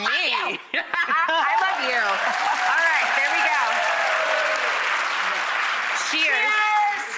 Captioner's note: laughs